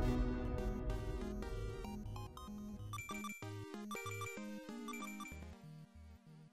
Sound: video game music; coins plinking

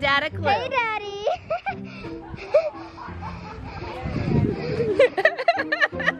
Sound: giggles; laughing

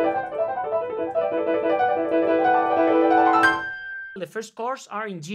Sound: bell dings

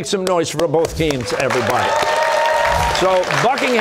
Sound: cheers and applause

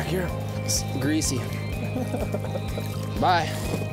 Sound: laughs

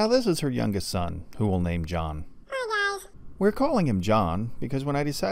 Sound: man's voice

